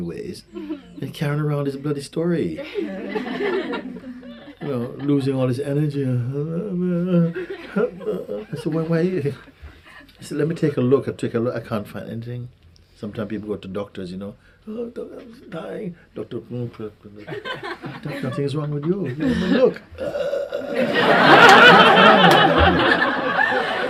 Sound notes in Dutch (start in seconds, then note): 2.6 gelach; 6.8 imiteert huilen en jammeren